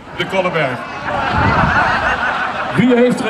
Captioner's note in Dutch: publiek lacht